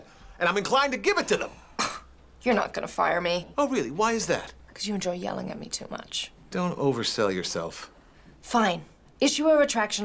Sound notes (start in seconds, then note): 1.7 scoffs